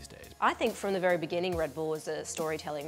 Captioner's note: voiceover